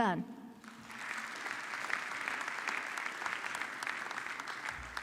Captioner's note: audience clapping